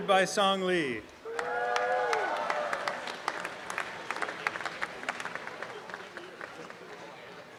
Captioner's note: cheering and applause